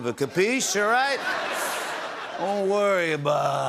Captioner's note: laughter